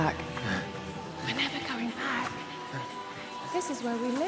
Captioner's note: whispers